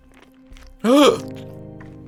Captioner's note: gasp